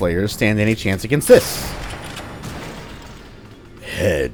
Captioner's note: bam; unreal tournament narrator voice